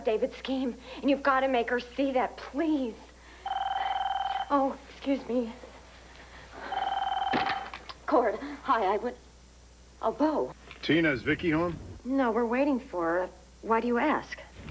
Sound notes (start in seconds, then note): 6.5 telephone rings